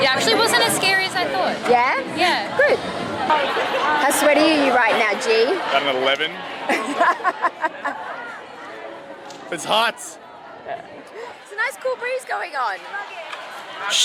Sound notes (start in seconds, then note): 6.7 laughing